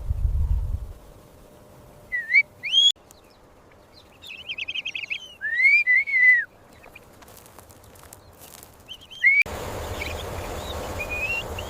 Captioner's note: whistles